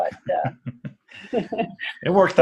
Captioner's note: laugh